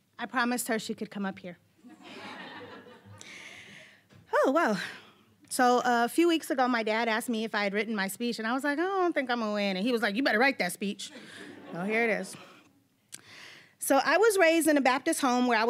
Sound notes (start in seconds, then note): 2.0 audience laughing; 11.1 audience laughing